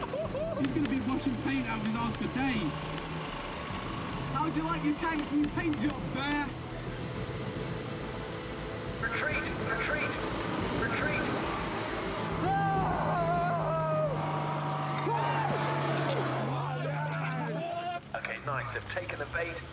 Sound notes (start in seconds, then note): 12.2 cheering